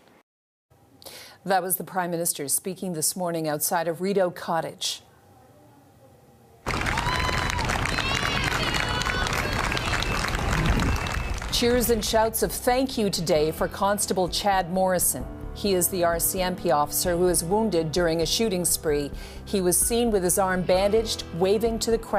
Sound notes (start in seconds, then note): 11.7 applause